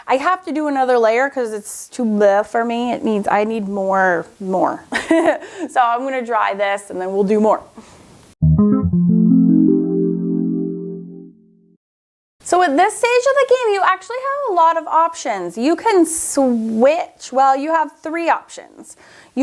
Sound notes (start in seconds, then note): 5.0 laughs; 8.4 whimsical music